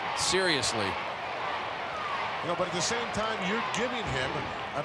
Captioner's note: applause